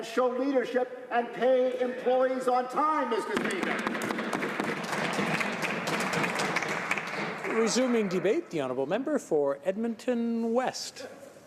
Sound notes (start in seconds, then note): 8.4 some Applause